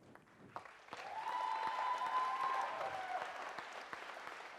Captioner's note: audience cheers and applauds